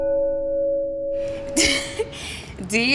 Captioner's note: chuckling